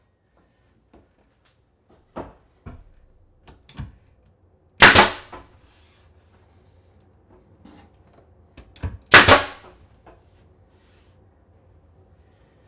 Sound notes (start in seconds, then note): 4.8 nail gun clicking